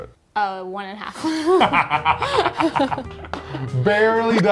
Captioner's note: both laughing